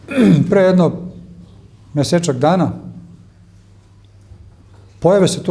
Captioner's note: coughs